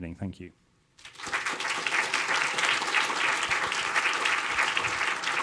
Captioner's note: audience applauding